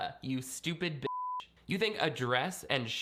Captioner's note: beep